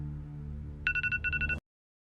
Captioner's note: alarm clock